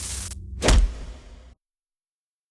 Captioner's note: thuds